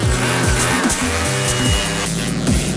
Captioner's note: Powerband noise?